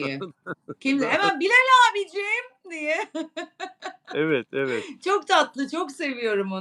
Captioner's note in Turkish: kahkaha